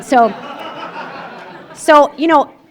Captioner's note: laughter